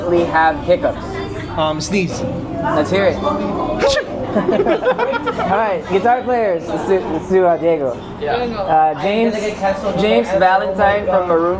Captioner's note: laughter